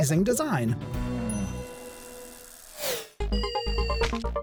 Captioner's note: gears rattling; techy music